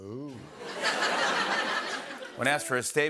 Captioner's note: laughter